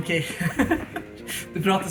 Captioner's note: nervous laugh